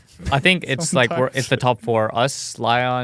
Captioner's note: laughs